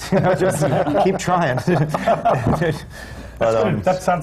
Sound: laughter

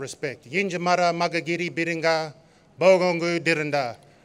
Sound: non-english speech

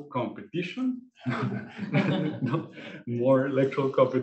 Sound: laughing

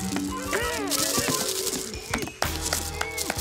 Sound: grunting; muffled grunting; Duchamp applauding

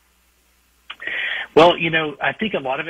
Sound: sighs

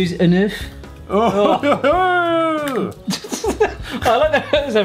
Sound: groans Gallic-ly

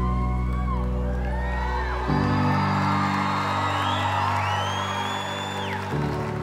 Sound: cheering and applause

